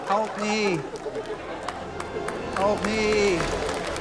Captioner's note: laughter, applause; applause, laughter